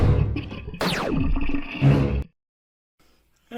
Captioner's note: laser gun fires; Cerberus growling